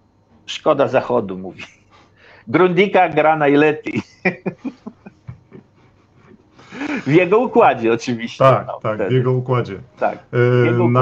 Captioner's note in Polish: śmiech